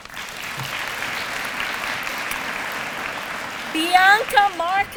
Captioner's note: applause